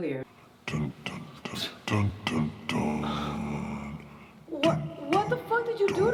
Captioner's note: person off-camera hums deeply